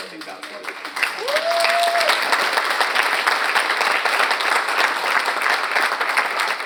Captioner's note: audience applauds and cheers